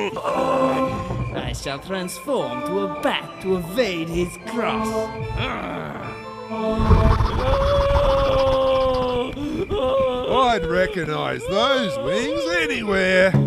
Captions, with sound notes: I shall transform to a bat to evade his cross! [WINGS FLAPPING] [MONSTER SCREAMS] I'd recognise those wings anywhere!